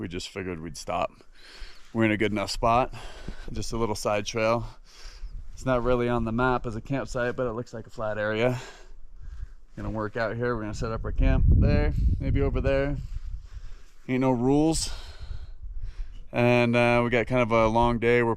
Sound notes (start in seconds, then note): none